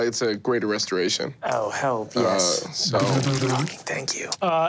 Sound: mimics liquid pouring

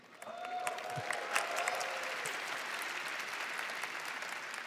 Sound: applause

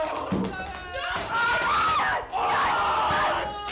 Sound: shrieking

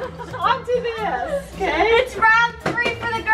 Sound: girls laughing

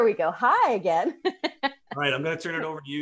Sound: laughs

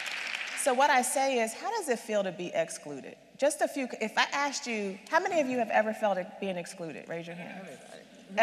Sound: applause

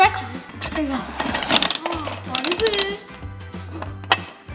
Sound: clicks

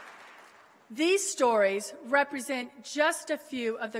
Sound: applause

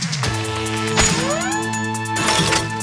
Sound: buckle clicks; oil spurts

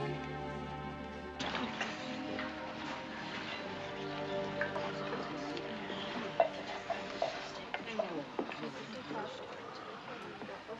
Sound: coughing

